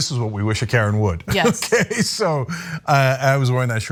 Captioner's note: laugh